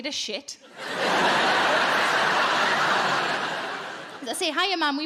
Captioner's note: audience laughing